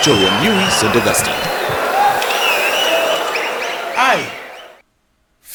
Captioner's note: wild applause and cheering for 22 seconds